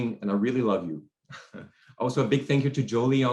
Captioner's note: chuckles